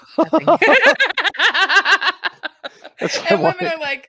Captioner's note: laughing